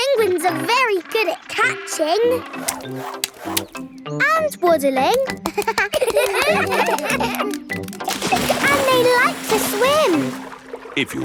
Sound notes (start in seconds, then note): 5.2 children laugh